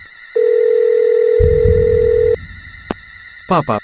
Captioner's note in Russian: гудок